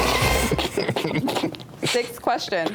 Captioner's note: contestants laughing